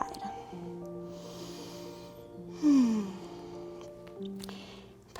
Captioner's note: deep breathing